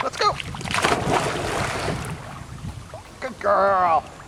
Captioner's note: water splashing